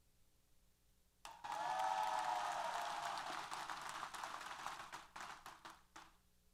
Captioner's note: applause & Cheers